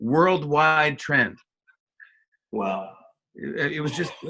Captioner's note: laughs